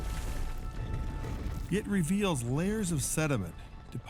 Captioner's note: rocks rumbling